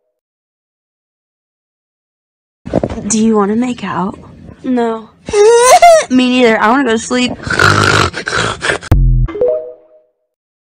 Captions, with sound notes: Do you wanna make out No. AHUUUGHHHH Me neither. I wanna go to sleep *obnoxious fake snoring*